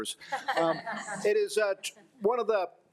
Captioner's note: audience laughs